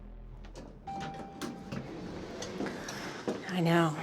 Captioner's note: elevator dinging